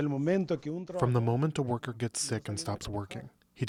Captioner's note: through translator